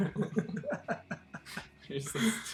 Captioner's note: both laughing